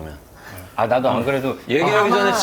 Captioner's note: laughing